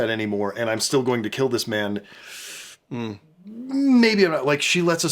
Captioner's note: sucks air in